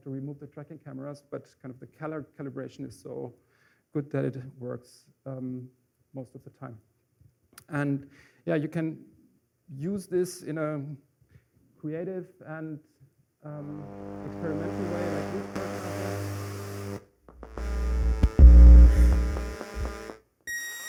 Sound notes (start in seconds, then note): 14.4 static